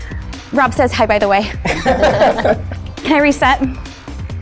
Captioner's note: laughing